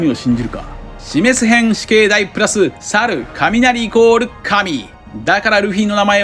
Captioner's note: thunder